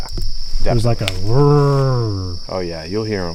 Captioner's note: growls